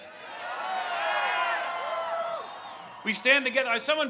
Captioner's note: crowd cheering